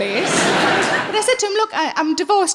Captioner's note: audience laughing